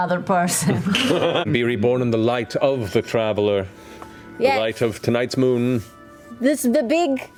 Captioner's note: trying to sound grandiose